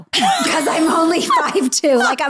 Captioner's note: laughing